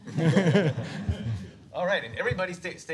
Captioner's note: laughter